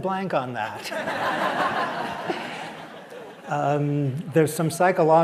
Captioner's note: laughter